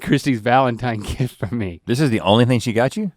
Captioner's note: laughs